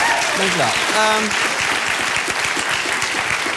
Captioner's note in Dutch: applaus